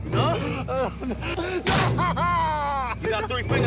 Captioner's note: screaming